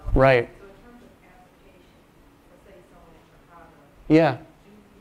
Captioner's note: voiceover